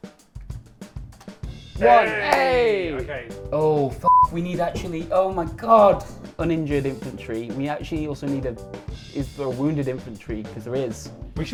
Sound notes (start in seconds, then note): 0.1 compelling music playing; 1.8 both cheering